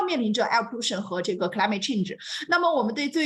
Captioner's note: speaks Mandarin; continues speaking in Mandarin